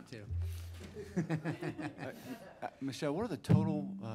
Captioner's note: laughing